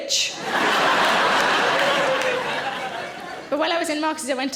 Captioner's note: audience laughing